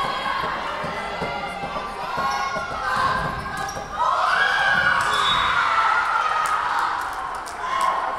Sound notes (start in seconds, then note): 5.0 whistle blowing